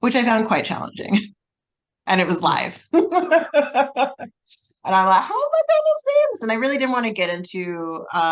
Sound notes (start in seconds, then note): 2.9 both laugh